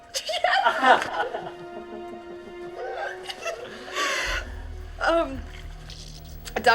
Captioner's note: William laughing